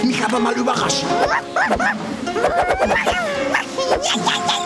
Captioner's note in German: sehr hohes Kampfgeschrei